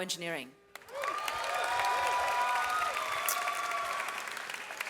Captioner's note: audience applauds